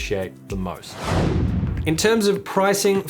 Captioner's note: air whooshes